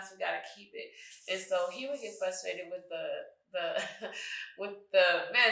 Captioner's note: chuckles